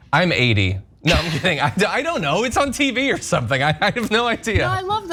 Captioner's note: laugh